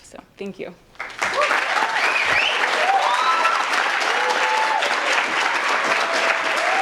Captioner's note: audience applauds and cheers